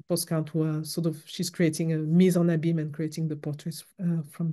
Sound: french

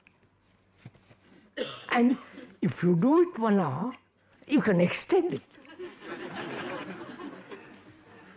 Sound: laughter

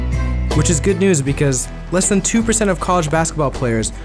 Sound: voiceover

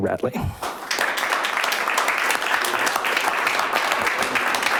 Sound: clapping

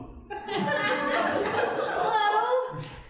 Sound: audience laughing

